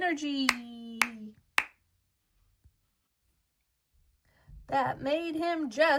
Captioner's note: claps rhythmically